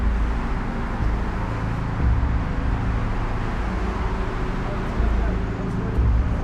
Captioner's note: faint traffic noise; ominous music